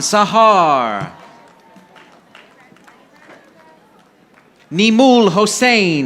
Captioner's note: audience applauding